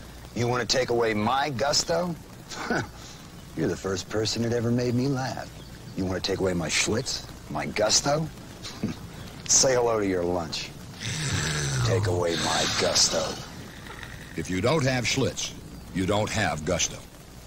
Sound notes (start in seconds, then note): 2.5 laugh; 10.9 cat snarles